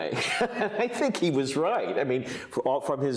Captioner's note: chuckles